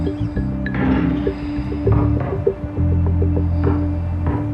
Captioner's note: instrumental music; basketball thumping